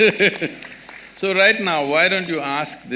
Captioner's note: laughs